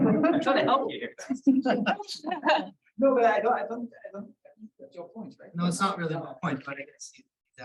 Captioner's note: laughter